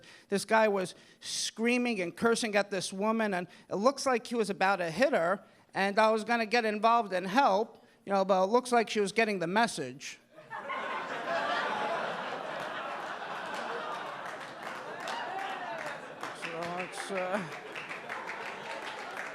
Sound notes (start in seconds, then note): 10.5 audience laughing; 14.8 audience clapping